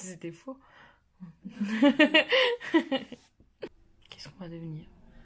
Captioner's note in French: rire